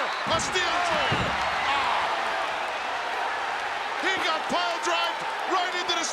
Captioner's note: applause; applause